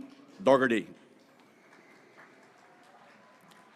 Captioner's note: graduates cheering